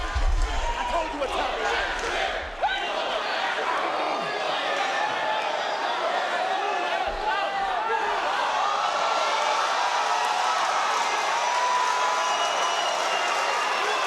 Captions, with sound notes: I told you what time it was. Whoop that trick! Whoop that trick! (audience cheering)